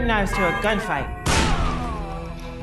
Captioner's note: boom!